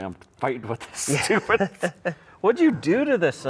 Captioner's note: laughs